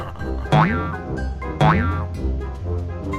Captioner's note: laughs; bouncing